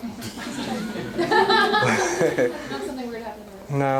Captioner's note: laughter